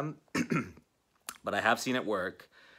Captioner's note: clears throat